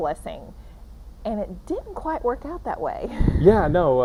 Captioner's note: chuckling